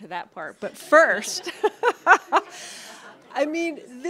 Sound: chuckles

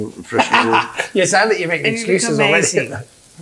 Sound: laughs

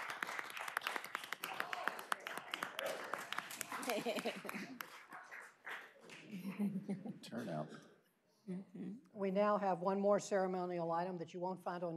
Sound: cheers and applause

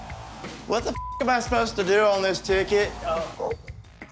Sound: beep

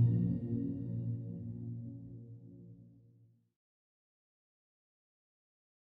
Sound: silence

